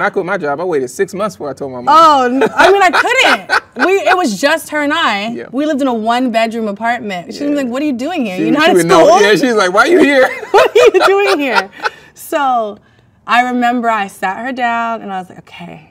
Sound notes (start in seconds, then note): 2.3 man laughs; 9.9 both laugh